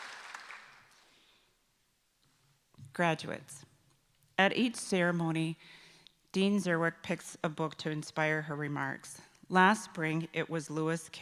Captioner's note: applause